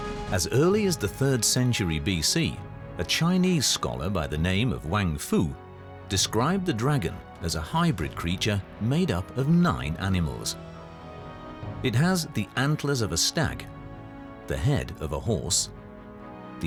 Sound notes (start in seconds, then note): none